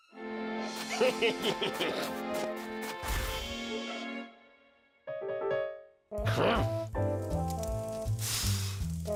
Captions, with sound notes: HEH HEH HEH HEH! HUH? (fire crackling) (blows)